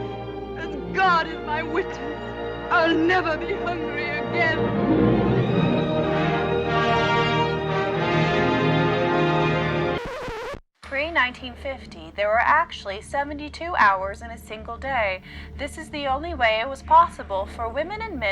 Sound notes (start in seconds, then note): 4.9 triumphant music; 10.0 record scratches